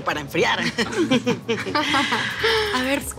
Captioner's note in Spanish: Risas